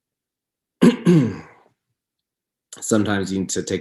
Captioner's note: clears throat